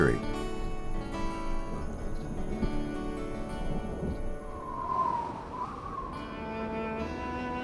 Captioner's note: wind; thunder; wind